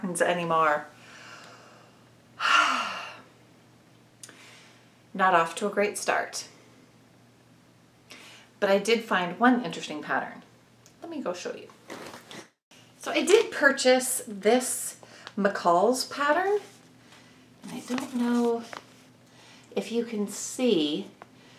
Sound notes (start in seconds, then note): 2.4 sigh